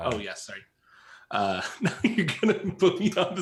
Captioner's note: laughs